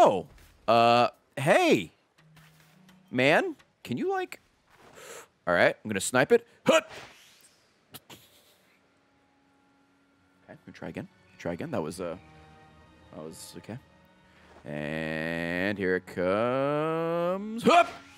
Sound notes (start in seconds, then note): 7.9 laughs